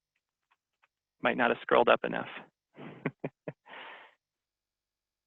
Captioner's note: laughs